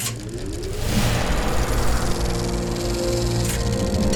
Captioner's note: projector whirring; lively music